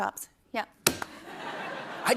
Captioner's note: laughter